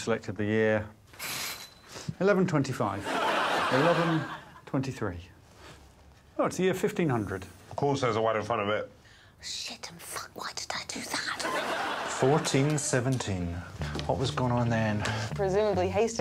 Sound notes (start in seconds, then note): 9.9 whispers